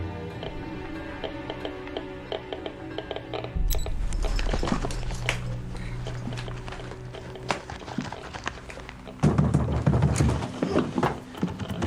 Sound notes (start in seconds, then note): 3.5 watch beeps; 9.1 knocks